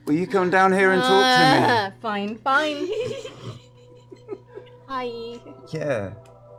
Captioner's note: groans